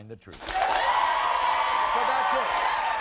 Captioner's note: crowd cheers